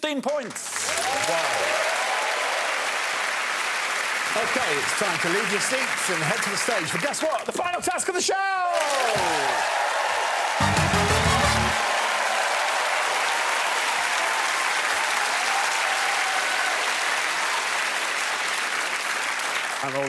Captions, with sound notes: At the top of the pile it's Frankie Boyle with 16 points. [cheering and applause] Okay it's time to leave your seats and head to the stage for guess what? The final task of the show! [loud cheering and applause]